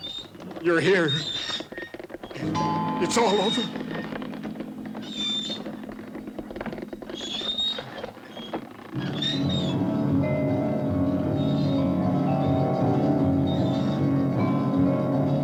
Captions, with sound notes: - You're here. It's all over. (cart wheels continue creaking) (eerie music)